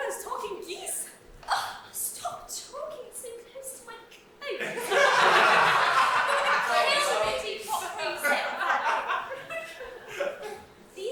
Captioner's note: audience laugh